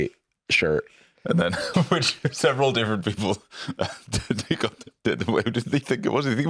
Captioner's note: laughs